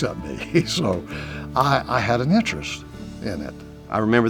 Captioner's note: chuckles